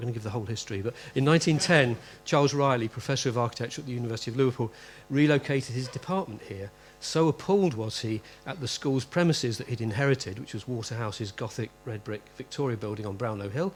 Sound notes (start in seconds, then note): 0.9 laughter